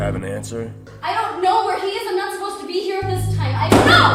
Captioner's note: bang